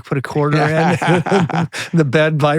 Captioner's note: both laughing